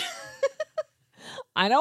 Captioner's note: laughs